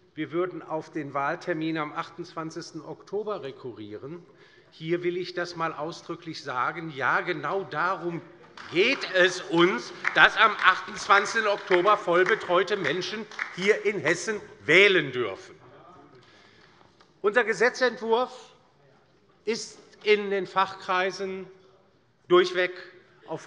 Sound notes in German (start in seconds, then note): 15.3 Beifall bei der LINKEN